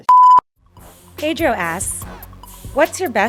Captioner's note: beep; voiceover